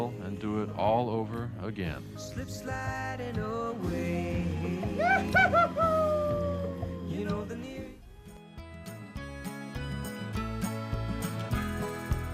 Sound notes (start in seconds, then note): 4.9 rider cheering; 8.8 upbeat music